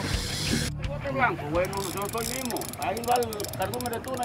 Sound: reels cranking

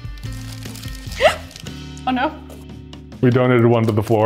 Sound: laughs; gasps

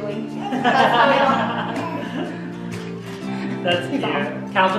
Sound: laughing

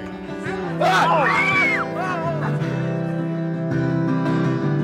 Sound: everyone screaming

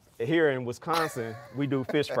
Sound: presenter laughing

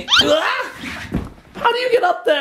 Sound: shouts

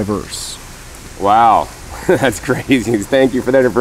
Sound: laughs

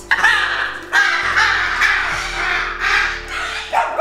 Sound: bird cawing

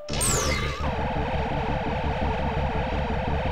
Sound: electronic blips

